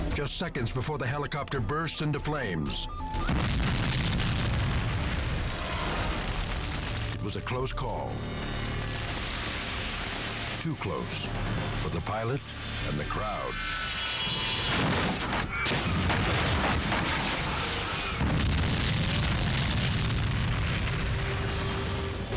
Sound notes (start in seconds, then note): 3.2 helicopter exploding; 14.1 helicopter crashing; 18.3 helicopter exploding